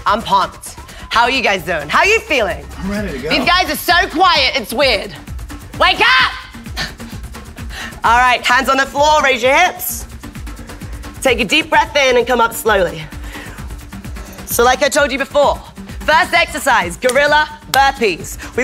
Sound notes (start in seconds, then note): 0.0 upbeat music; 6.7 laughs